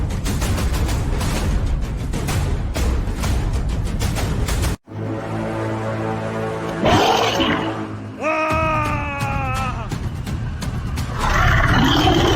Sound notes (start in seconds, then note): 0.0 war Drums; 6.8 monster Roar; 7.3 shouting